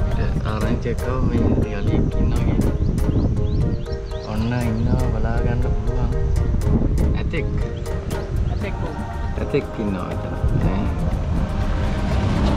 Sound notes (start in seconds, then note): 8.9 background Conversation